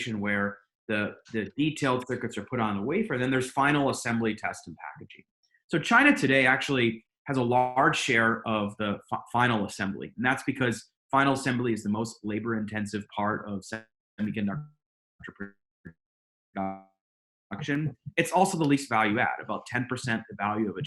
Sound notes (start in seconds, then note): 14.3 audio drops out